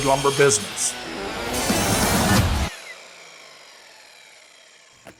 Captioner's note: saw revs down